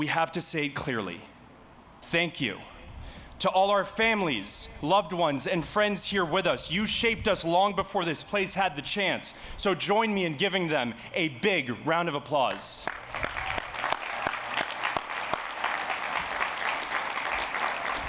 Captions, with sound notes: we have to say clearly, thank you, to all our families, loved ones, and friends here with us. You shaped us long before this place had the chance. So join me in giving them a big round of applause. [APPLAUSE]